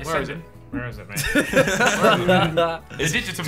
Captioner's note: laughing